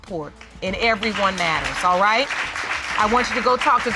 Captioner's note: audience applauding